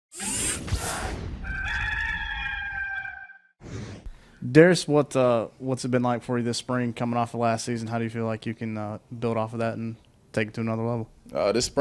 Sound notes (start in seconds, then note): 0.2 logo whooshing; 1.4 cock crowing